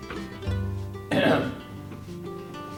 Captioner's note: clearing throat